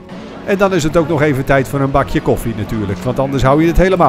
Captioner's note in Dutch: Voiceover